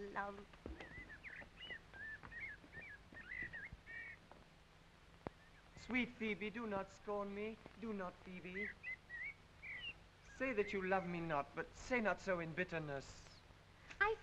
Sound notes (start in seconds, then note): 1.0 birds chirping